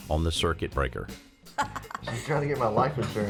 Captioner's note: laughs